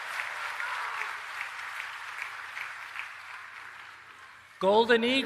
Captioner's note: applause